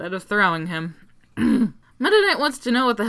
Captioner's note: angrily clears throat